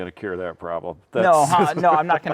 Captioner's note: laughing